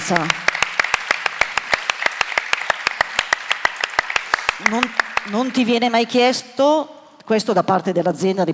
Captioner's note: applause